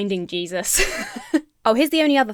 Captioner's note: laughs